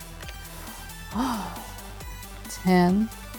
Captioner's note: sighs